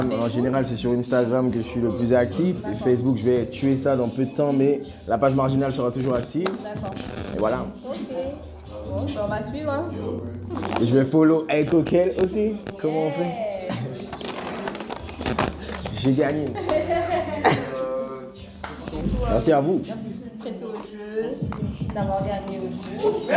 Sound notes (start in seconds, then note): 16.4 rires